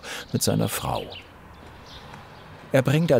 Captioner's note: birds chirping